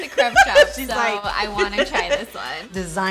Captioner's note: laughing